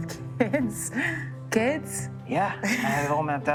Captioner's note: laughing